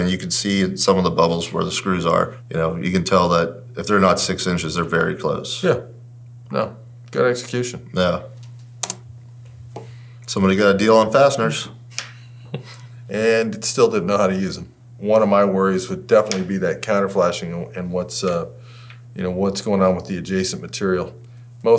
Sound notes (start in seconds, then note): 11.9 both chuckle